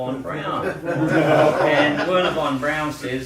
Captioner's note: laughter